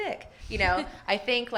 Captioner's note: laughs